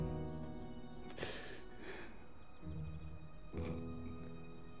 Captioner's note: Ben crying softly